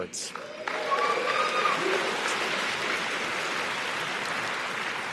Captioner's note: audience cheers and applauds